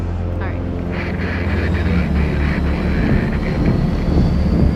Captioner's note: distorted radio chatter; propellers whir